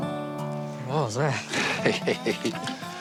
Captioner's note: laughter